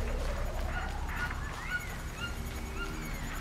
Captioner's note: whooshing